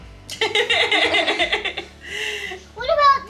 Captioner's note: laughing